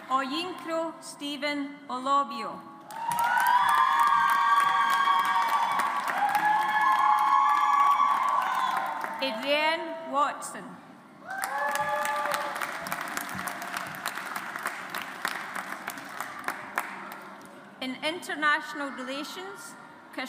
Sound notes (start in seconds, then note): 2.9 audience applauds; 11.3 audience applauds